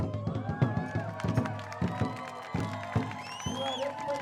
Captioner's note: audience cheering and applauding